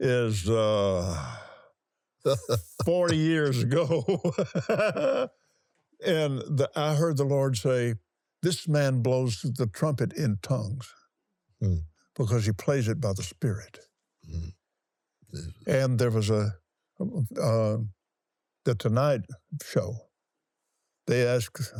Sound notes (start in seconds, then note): 4.6 laughs